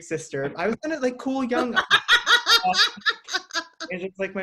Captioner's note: laughing